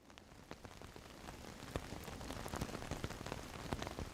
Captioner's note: rain drumming